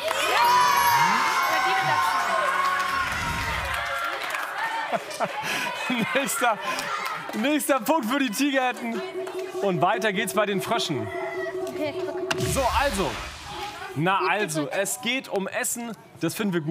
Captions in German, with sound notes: (Jubel) Nächster Punkt für die Tigerenten. Weiter geht es bei den Fröschen. (Buzzer) Es geht um Essen. Das finden wir gut.